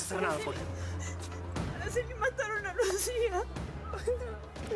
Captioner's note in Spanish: llorando